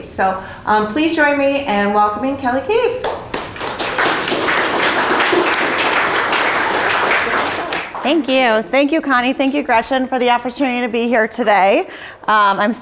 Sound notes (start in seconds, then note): 3.0 applause